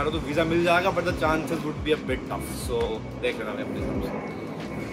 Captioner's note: plane flies overhead